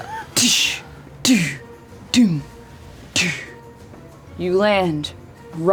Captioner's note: impacts